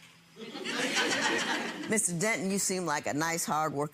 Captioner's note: audience laughing